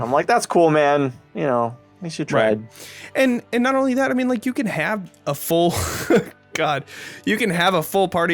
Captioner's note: laughs